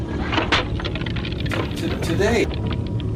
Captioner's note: device shattering